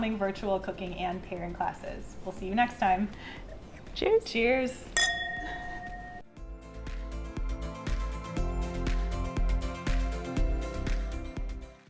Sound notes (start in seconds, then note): 4.9 glasses clinking; 6.4 upbeat music